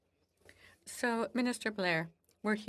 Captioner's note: speaking FRENCH